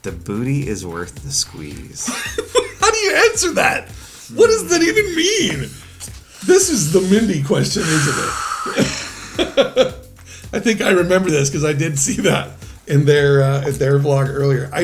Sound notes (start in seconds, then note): 2.2 laughs; 7.8 exhales; 8.7 laughs